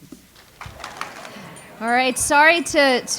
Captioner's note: audience applauds